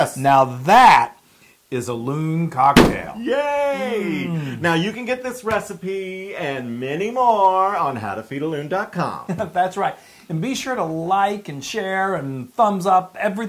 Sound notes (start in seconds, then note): 9.0 laugh